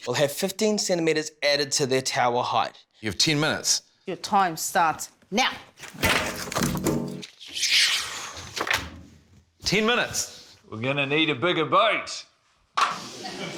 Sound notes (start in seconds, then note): 7.4 exhales